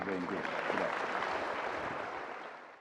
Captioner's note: audience applause